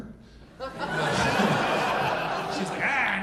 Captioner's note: audience laughing